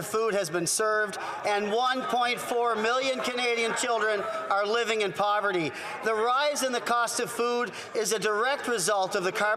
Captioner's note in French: voix de l'interprète